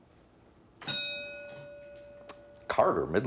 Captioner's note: bell ringing